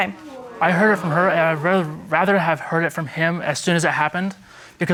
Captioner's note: stammering